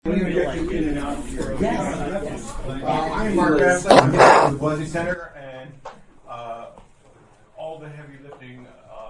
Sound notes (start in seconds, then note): 3.8 static